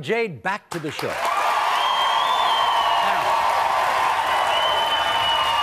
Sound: audience applauds

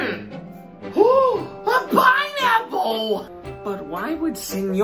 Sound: gasp

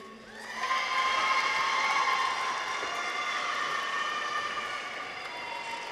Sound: people cheer; audience applauds

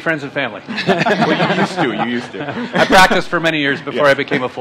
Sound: laughter

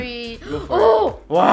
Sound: gasp

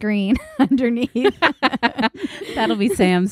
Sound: laughing

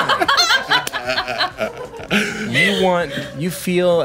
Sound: group laughing

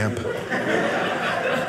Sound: audience laughing

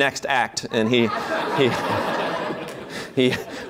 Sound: laughter

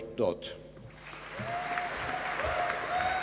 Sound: applause

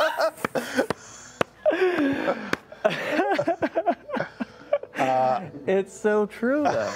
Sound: laughter

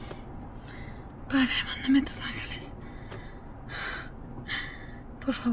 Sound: Janet speaks Spanish

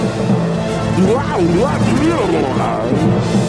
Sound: babbling

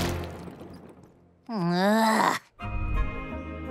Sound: groaning

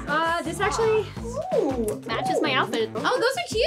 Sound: lips smacking

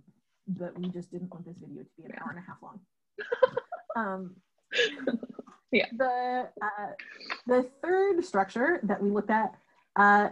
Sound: laughter

